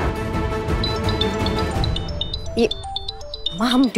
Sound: phone ringing

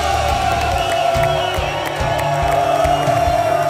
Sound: crowd cheering

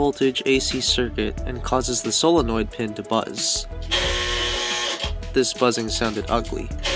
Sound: buzz

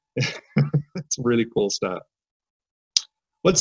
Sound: laughs

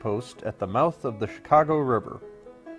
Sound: Arabic

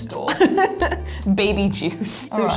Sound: laughs

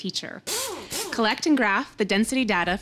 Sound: drill whirring

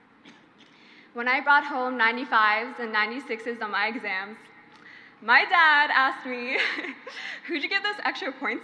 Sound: she laughs

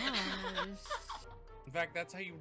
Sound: laughing

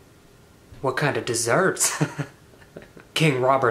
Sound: chuckles

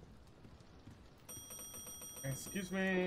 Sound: bell rings

